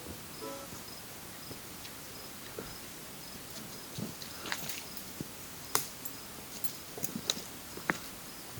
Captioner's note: forest sounds, bird calls